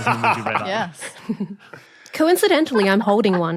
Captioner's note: laughs